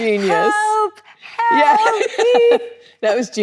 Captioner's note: both laughing